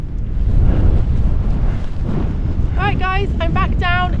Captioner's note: wind